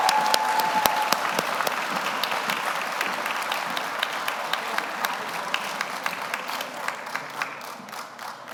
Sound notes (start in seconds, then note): 0.0 audience cheers; 0.0 audience applauds